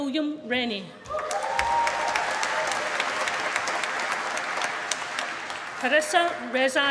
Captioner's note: applause